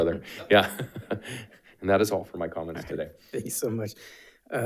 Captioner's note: laughs